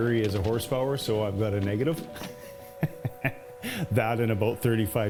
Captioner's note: laughing